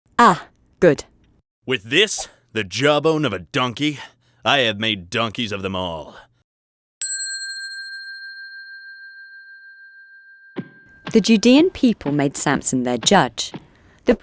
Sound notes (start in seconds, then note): 7.0 bell dings